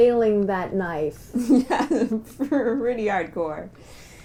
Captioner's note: laughing